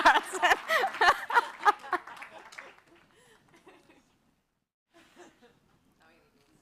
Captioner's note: laughs